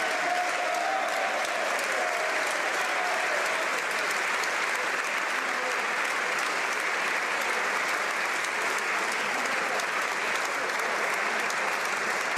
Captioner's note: cheering/Applause